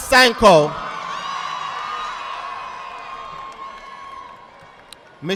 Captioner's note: audience applauding